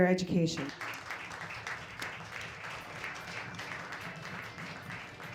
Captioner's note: audience applauds